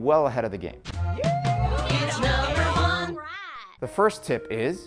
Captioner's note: wooo